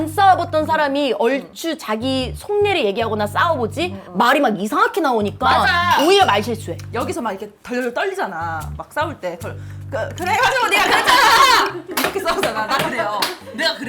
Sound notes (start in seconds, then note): 10.1 vocal cords trembling